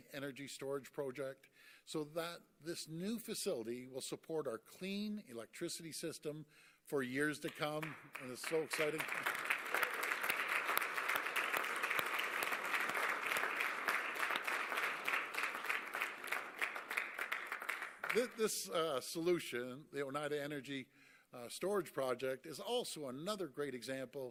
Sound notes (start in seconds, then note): 9.9 applause